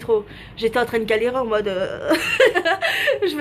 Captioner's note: laughs